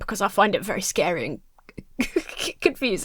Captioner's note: laughs